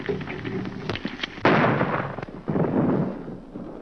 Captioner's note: gunshot